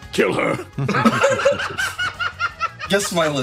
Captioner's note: laughs